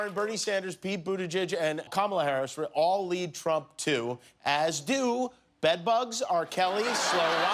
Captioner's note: cheers and applause